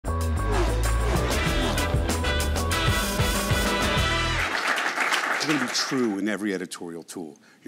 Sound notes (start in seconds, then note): 0.1 jazz music; 3.9 applauding